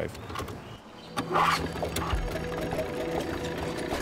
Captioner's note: engine starts